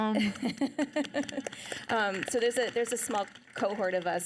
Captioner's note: audience applauding